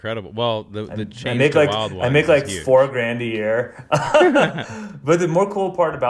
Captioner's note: laughs